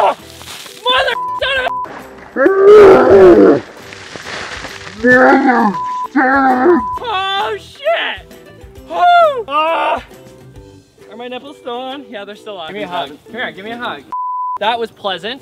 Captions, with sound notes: [Screaming] MOTHER F***** Oh shit! Are my nipples still on? Give me a hug